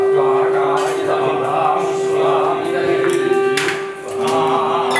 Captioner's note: chanting mantras